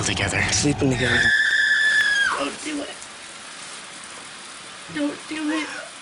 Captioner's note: screams